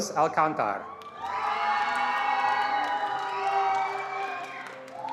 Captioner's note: attendees applauding